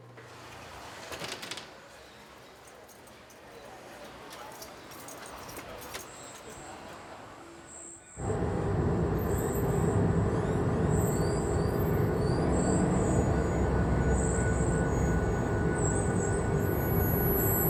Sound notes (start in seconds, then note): 0.3 city noises; 10.3 birds singing; 15.1 constant high frequency